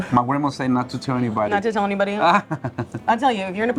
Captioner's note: chuckling